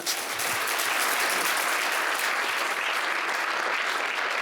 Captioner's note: applause